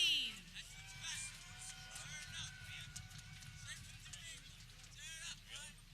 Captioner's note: people cheering